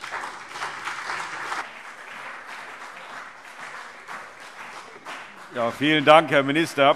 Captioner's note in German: Beifall CDU und BÜNDNIS 90/DIE GRÜNEN